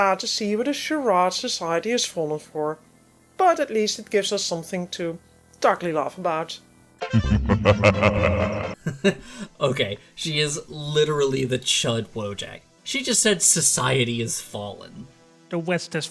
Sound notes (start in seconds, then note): 7.0 laughter